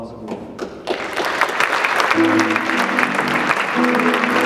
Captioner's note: audience clapping; jazz music